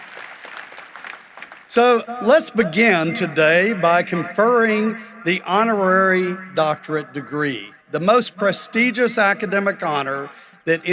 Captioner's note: applause